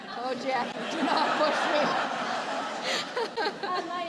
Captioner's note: laughter